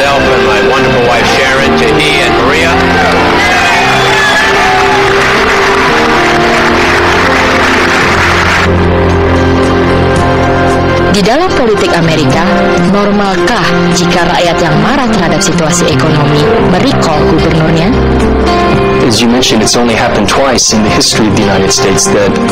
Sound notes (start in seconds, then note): 2.1 cheering; 11.0 speaking indonesian